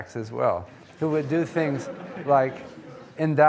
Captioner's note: audience laughing